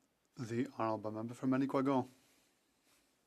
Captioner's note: speaking FRENCH